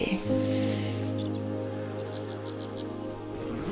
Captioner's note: morning birdsong